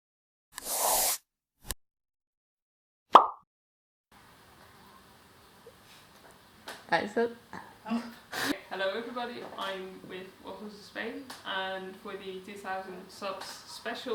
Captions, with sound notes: [brush sound effect] [plop] The camera is on. help Hello everybody. I'm with WaffleswithSpain. and for the 2,000 subs special